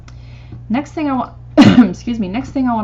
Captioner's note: coughs